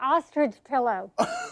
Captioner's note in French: laughing